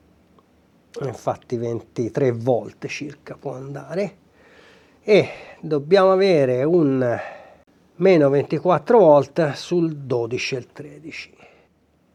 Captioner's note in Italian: sospiri